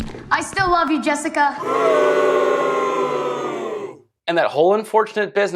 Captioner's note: crowd booing